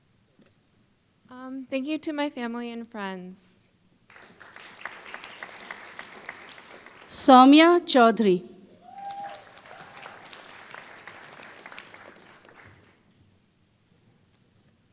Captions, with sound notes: Um thank you to my family and friends. Saumya Choudhary [Applause]